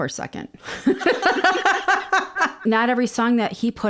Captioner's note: both laugh